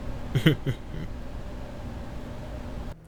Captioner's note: The Photographer chuckles